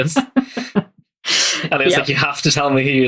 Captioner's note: laughs